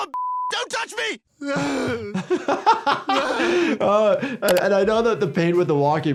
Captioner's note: Stewie groaning in pain; laughing